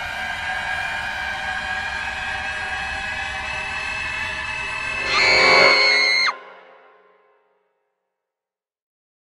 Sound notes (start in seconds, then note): 5.6 screams